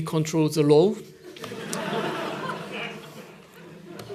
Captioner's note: laughter